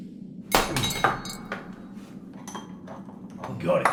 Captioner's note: door handle clanks